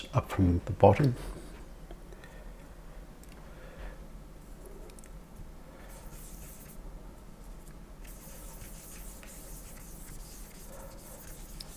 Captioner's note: silence